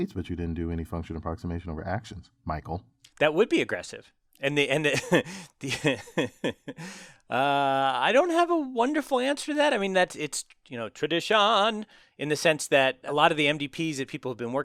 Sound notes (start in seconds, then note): 4.8 laugh